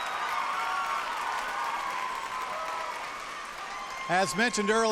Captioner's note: cheers and applause